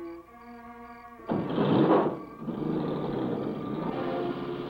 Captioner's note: car starting